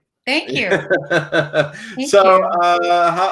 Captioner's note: laughs